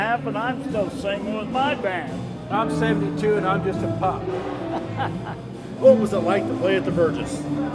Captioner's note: chuckling